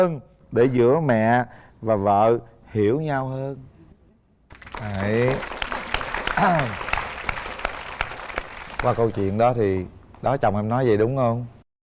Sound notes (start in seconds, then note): 7.0 applause